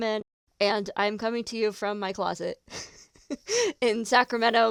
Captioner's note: laughs